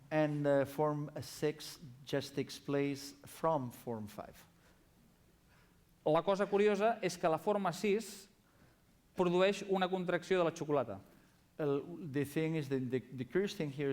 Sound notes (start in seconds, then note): 8.4 non-english speech